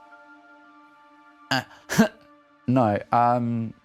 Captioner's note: nervous laugh